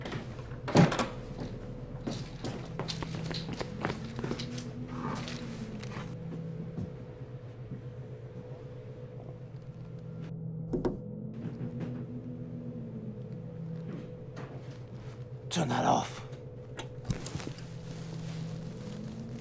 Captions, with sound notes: (clicking) (tapping) - Turn that off.